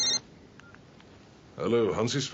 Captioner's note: beeps